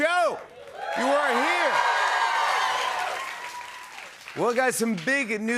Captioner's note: cheers and applause